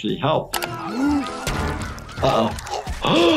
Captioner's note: Lumpy gasping; gasping; Lumpy choking